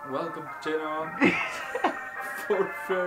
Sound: camera man laughs

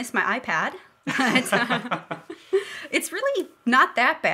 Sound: laughing

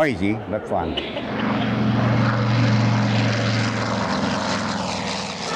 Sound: plane engine roars

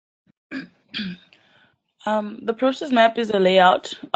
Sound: cough

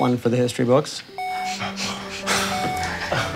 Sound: steady beeping; relieved laughter

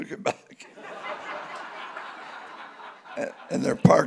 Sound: audience laughing

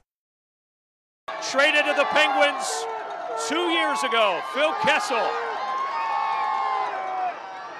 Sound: cheering

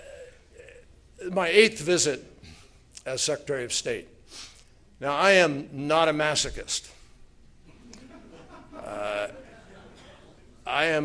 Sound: laughter

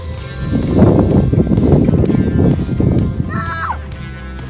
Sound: motor sound

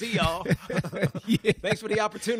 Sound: laughter

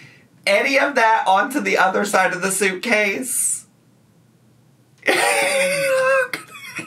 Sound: laughs

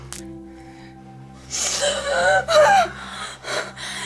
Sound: gasping

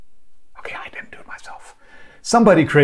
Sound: whispers

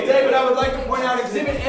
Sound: voiceover

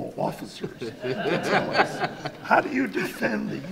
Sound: audience laughs

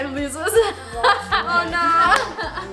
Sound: laughing

